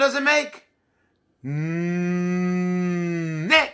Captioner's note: groaning